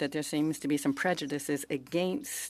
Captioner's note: speaking French